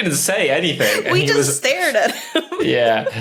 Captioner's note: giggles